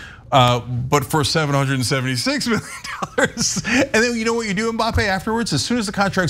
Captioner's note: laugh